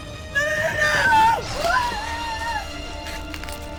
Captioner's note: spider hissing; screaming; Lucy panting